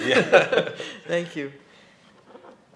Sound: chuckle

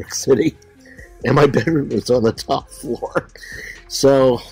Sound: laughs

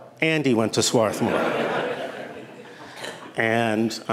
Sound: laughter

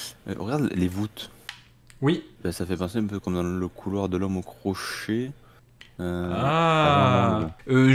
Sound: sound of surprise and astonishment

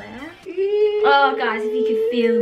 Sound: squealing

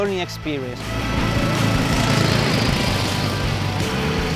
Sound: engine sounds

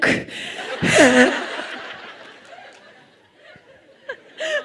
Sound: laughter

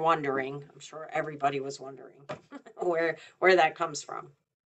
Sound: chuckles

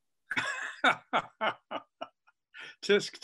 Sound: laughs

